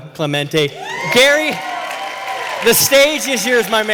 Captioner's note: cheers and applause